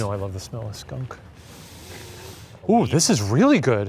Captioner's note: sniffing